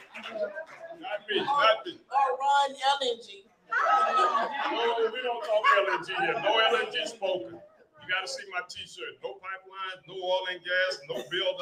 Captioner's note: applause